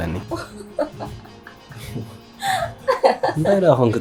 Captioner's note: laughing